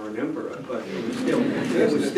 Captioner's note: laughter